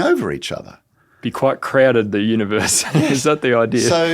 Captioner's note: laughs